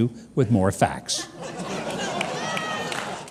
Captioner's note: audience laughs